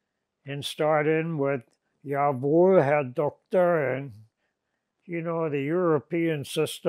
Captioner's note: non-english